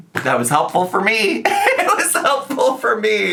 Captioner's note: laughs